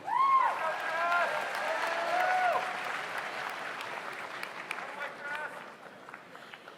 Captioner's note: audience cheers; audience applauds